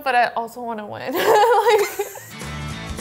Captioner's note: laughs; upbeat music